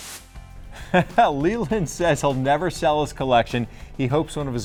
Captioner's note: chuckles